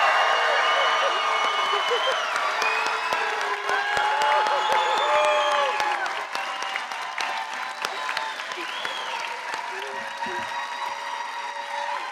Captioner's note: cheering